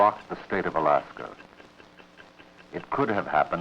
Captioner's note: clock ticking